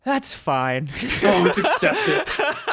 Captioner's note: laughs